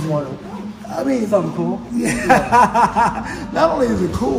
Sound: laughs

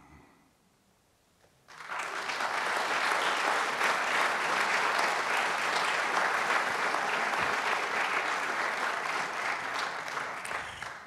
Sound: applause

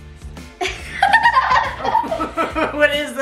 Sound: giggles

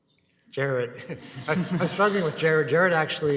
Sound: chuckles; group laughs

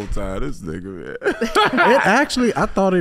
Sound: laughing

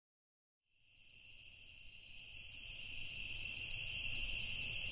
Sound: crickets chirping

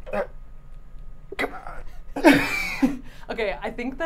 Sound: grunting

